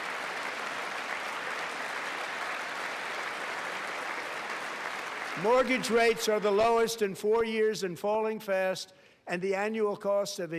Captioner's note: applause